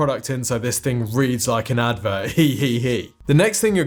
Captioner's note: snickers